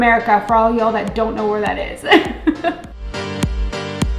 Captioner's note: laughing